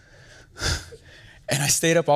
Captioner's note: sighs